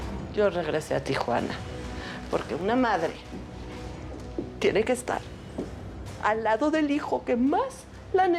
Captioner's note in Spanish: llorosa